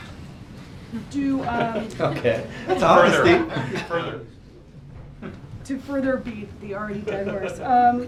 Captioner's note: laughter